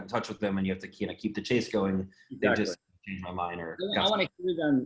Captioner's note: murmurs